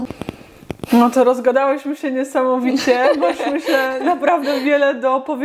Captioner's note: laugh